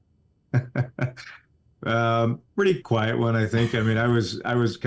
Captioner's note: laughs